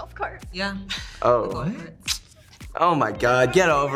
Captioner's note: smacks lips